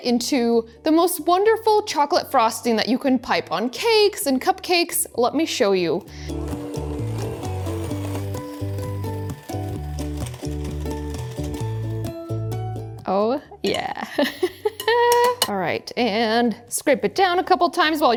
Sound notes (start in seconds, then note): 6.4 gentle upbeat music; 14.4 laughs